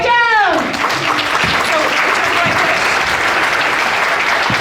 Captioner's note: audience applauding